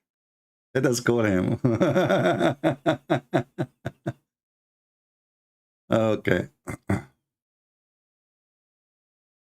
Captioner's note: Ketawa